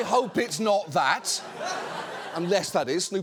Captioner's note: audience laughs